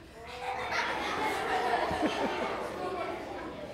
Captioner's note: audience laughing